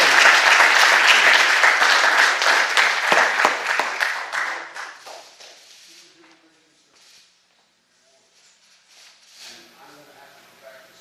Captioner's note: applause